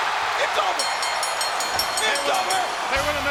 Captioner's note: bell rings